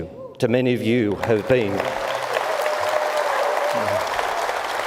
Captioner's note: audience applauds